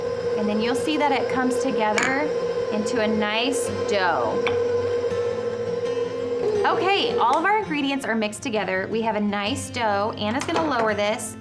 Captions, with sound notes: And then you'll see that it comes together into a nice dough. (machine running) All of our ingredients are mixed together. We have a nice dough, Anna's going to lower this